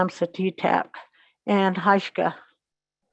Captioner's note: native language spoken